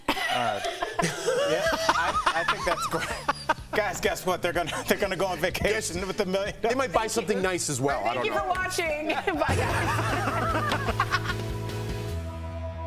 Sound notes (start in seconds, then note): 5.0 laughter